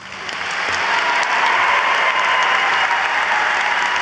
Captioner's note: audience applauds